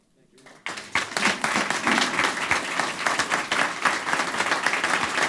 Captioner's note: applause